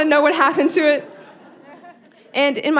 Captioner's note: audience laughing